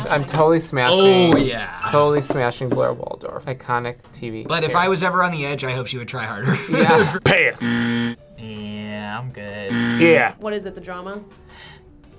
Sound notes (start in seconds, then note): 6.4 laughs